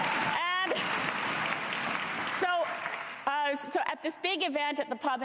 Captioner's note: cheers and applause